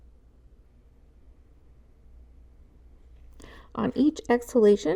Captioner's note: silence